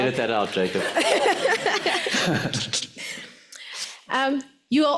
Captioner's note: laughs